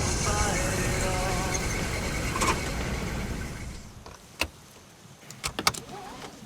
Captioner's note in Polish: Dźwięk gaszonego silnika samochodu